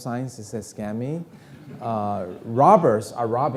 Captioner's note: audience laughing